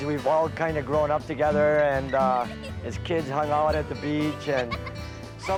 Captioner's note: giggling